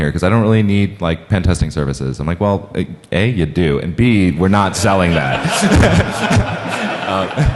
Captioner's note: laughing